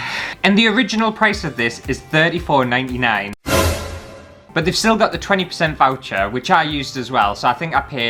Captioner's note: alert